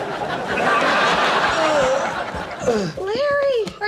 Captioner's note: audience laughs; groans